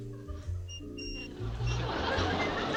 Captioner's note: creaking